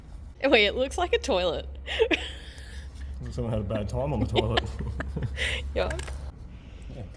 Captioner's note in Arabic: ضحك